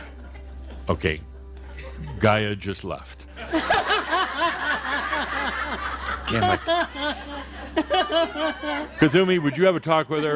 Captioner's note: lots of laughter